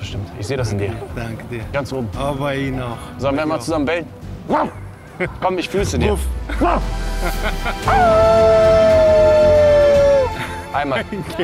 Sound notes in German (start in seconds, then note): 5.0 lacht; 7.8 Wolfsgeheul